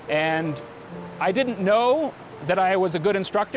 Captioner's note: none